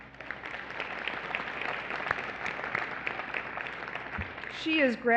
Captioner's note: applause